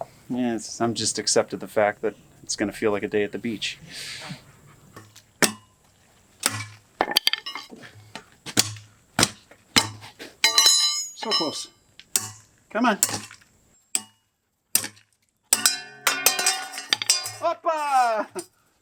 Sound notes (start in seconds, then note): 5.1 hammering; 13.7 more Hammering; 15.5 loud Clang